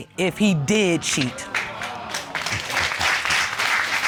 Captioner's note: audience gasping